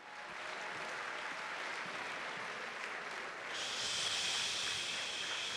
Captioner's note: applause